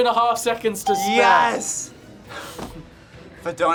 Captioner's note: bell rings